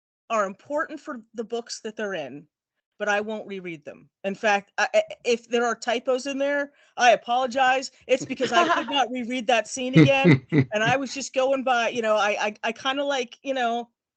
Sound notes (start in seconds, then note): 9.9 laughing